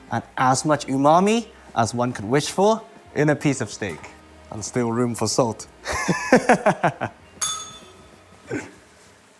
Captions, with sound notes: and as much umami as one could wish for in a piece of steak. And still room for salt. [laughs] [bell rings]